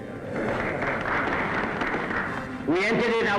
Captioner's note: applauding